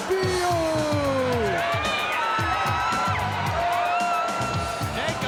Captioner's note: crowd cheering